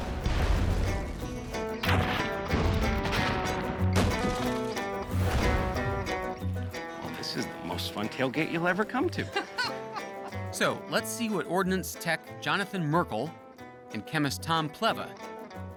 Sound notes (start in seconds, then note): 0.0 explosions; 9.0 Pogue laughs